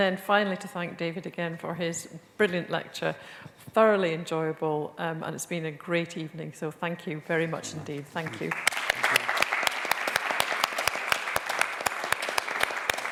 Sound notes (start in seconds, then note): 8.0 applause